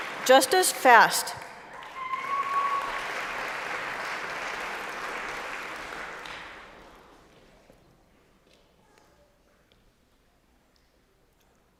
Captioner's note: applause; applause